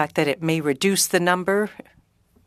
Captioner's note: speaking French